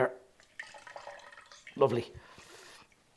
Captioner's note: liquid splashing